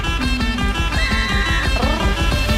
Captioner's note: upbeat music; scream